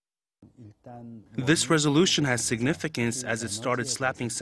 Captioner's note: Korean